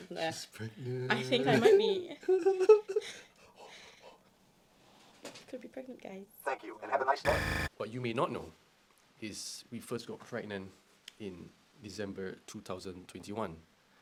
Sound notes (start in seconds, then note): 2.2 giggles; 6.7 robotic Voice